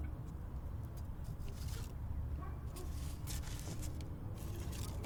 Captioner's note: pictures rustling